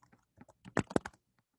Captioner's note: typing